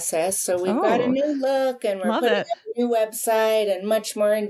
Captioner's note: audio warps